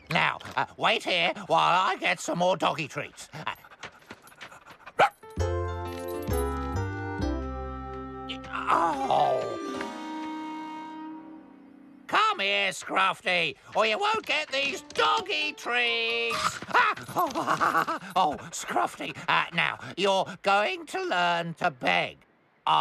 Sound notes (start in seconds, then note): 16.2 chomp!